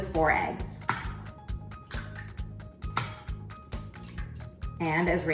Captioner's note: eggshells cracking